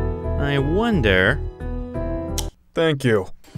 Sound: clicks

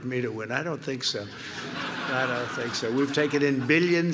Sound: laughter

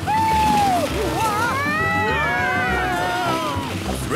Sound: all screaming excitedly

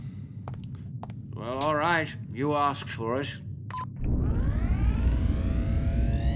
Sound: beep

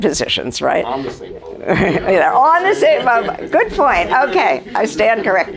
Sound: audience laughter; laughter

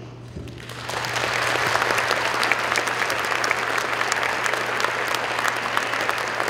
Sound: applause

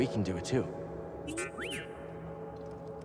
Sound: enthusiastic whistle

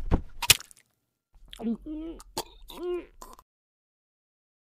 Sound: gagging

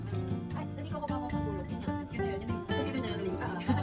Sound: chatting

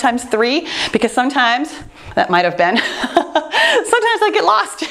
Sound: chuckles

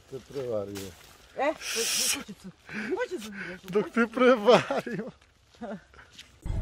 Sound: laughter

